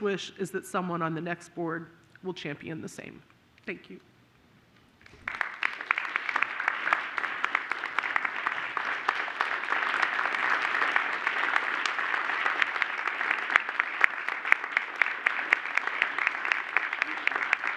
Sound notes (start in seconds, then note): 7.1 applause